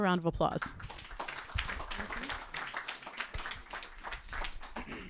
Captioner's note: audience clapping